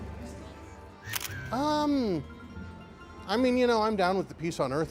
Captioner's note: shutter clicks